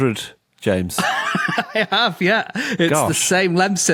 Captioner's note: laughs